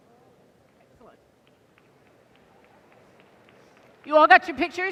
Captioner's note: applause